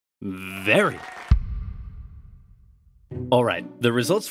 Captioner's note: cheering